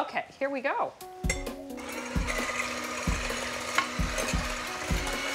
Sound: whirring and hitting glass

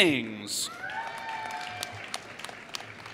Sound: applause

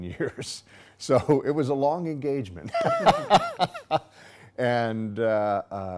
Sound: laughing

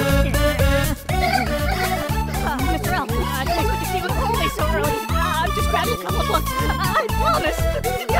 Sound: whimpering

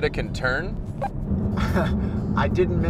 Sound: chuckles

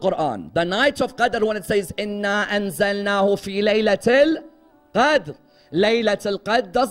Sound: Arabic

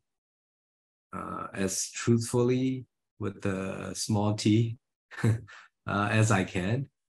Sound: he chuckles

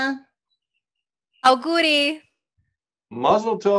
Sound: speaking foreign language

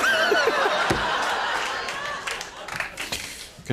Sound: laughter

